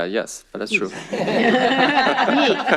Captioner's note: laughter